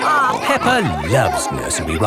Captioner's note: all laughing